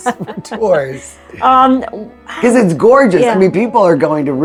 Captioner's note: laughs